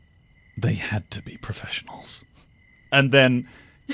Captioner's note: laughs